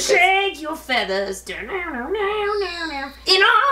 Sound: mimics guitar

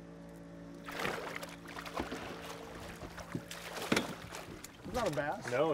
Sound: fish splashing

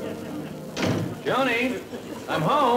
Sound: door closing

